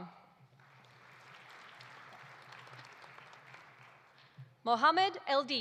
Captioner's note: audience applauding